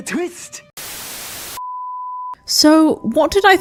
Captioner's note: static